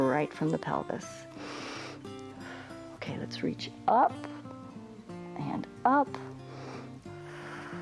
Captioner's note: inhales and exhales